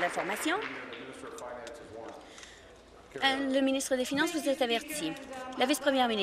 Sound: applause

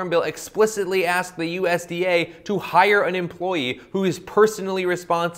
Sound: none

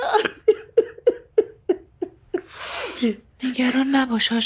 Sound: crying

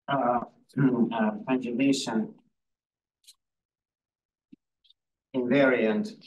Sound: audio distorting

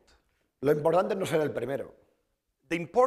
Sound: speaking spanish

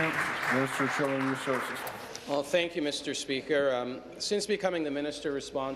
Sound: applause

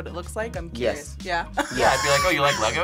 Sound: laughs

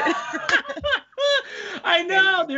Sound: both laugh

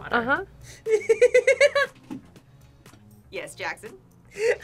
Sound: laughs

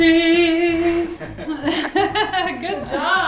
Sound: woman laughing

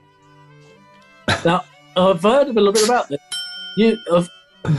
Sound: ding!

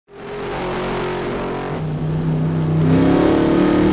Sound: Lightning revs

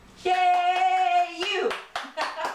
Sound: laughter and Clapping

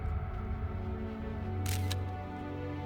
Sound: camera clicking

